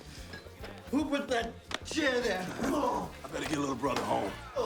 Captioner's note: grunts